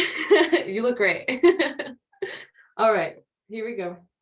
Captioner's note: laughs